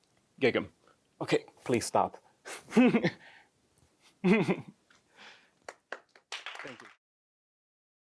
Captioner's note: laughs